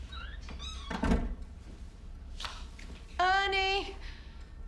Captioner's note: door closing